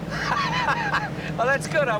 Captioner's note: laughs